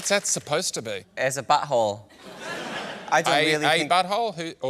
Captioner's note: laughter